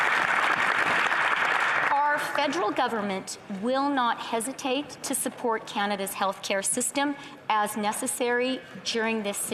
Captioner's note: some Applause